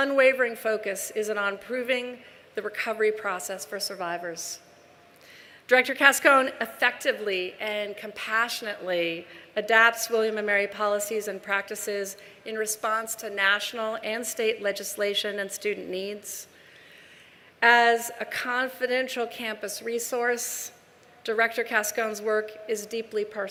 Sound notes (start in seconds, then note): none